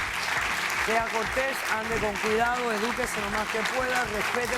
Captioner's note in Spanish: Aplausos